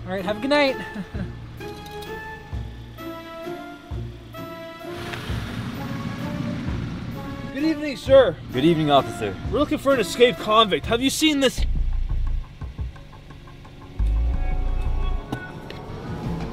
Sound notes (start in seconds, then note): 5.3 car engine; 13.6 music intensifies